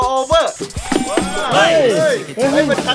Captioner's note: knocks